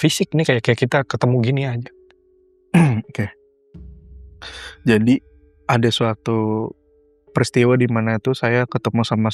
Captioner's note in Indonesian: berdehem